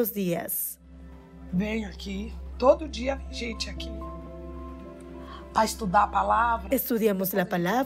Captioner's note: Hablando otro idioma y música